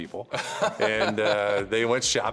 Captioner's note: laughs